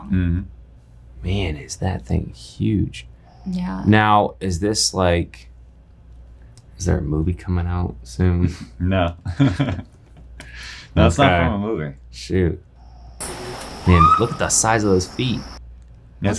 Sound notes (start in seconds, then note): 8.5 laughing